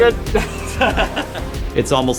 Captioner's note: laughter